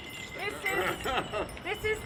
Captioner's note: laughs